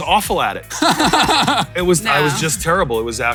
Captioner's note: both laughing